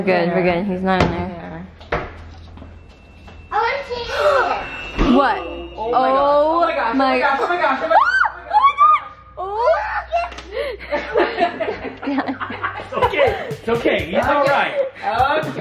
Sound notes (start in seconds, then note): 4.1 gasps; 7.9 screams